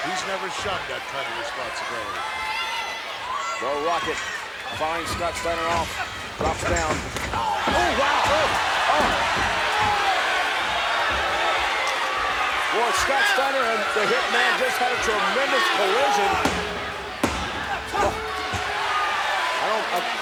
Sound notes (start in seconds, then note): 9.9 crowd boos; 18.8 crowd cheers